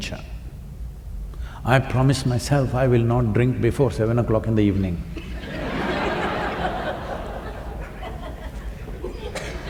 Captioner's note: laughter